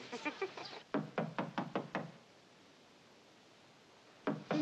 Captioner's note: knocking at door